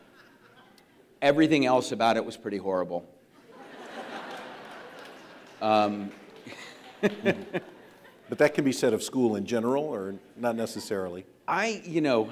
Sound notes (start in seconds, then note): 3.4 audience laughs